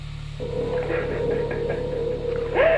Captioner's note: woman whimpering